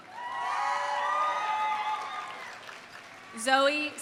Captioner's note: audience cheering; audience applauding